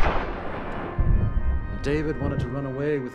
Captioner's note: gun shot firing